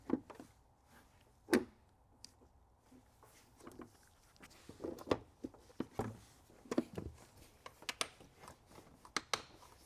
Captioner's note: silence